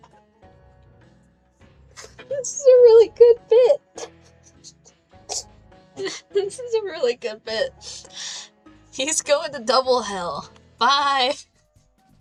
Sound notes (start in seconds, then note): 5.7 laughing